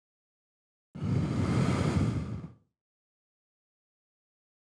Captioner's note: deep Exhale